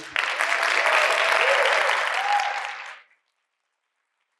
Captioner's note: audience applauding